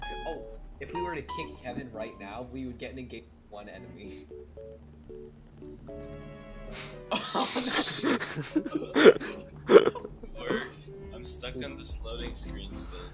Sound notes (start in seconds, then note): 7.2 spurts of laughter emerge from the entertained audience